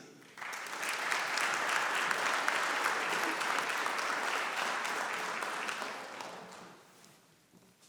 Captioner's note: applause